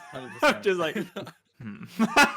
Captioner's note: all laughing